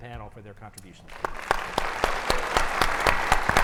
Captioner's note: audience applauds